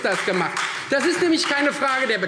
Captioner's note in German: Beifall Freie Demokraten